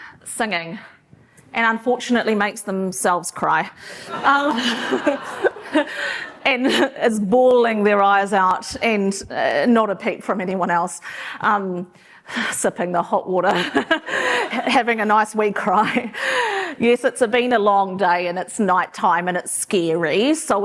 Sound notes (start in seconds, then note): 4.0 laughter